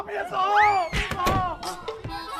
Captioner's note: boom